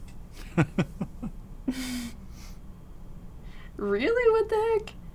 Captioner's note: laughs